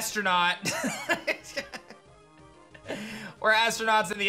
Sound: laughs

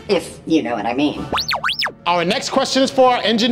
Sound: beeping

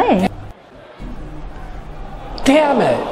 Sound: crowd shouting from TV

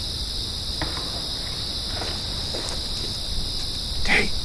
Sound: cicadas buzzing; indistinct thump

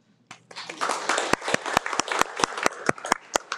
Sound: applauds

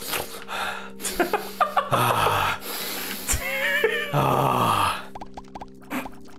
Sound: sniffs and inhales at various degrees of pleasure; laughing

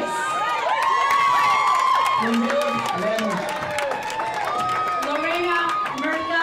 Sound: crowd applauds and cheers

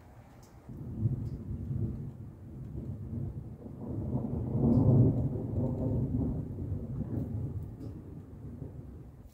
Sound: low rumbling thunder

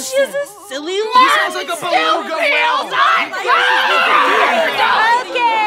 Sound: screaming

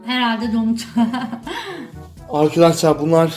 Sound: laughs

